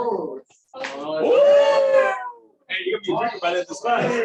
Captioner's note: cheering